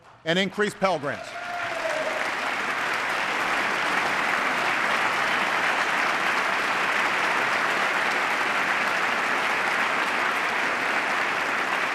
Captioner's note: applause